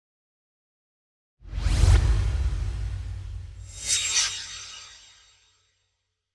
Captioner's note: swoosh